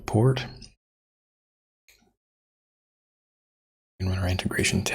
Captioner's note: blank Audio